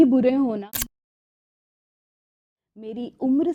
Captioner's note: camera shutter sound